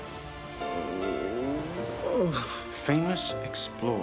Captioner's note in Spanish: gemidos